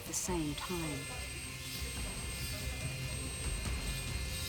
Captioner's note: drills whirring